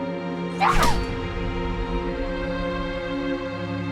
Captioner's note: Aleks grunting